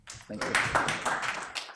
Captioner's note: applause